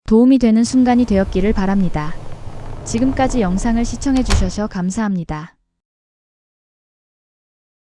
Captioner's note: door closing